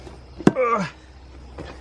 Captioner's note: manly grunt